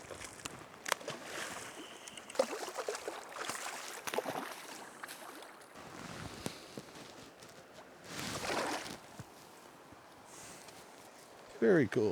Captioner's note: water splashing